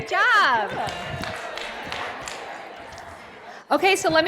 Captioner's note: applause